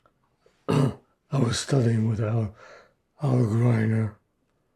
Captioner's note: clears throat